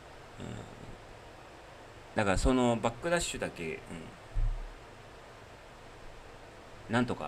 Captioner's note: snort